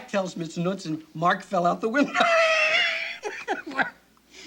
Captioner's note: laughs